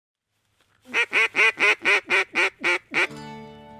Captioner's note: duck call